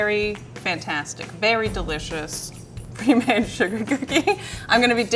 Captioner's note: laughs